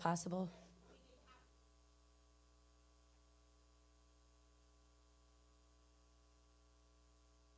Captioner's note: speaking away from mic